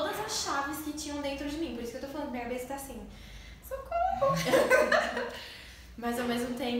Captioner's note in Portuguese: risos